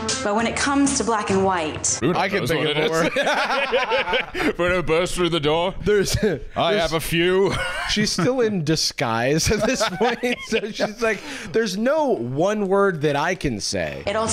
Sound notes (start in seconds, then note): 2.2 laughter; 9.4 laughs